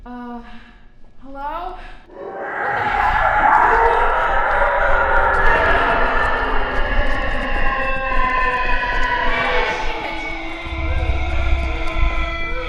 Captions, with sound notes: Uh… hello…? [screech] What the hell? OH SHIT!